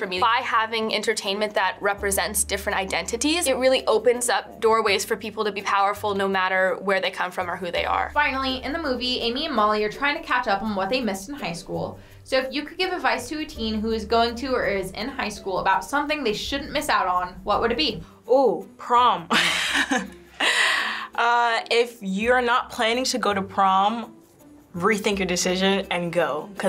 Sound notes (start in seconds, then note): 19.3 chuckles